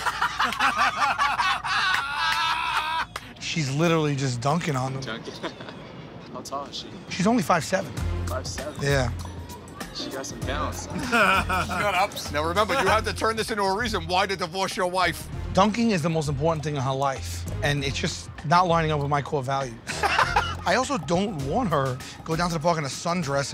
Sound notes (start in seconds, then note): 0.0 laughter; 5.2 chuckles